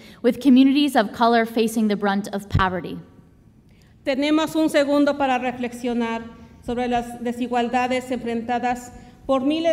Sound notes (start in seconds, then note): 4.0 speaks Spanish